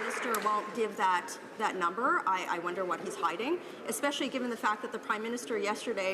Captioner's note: some Applause